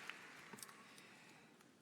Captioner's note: applause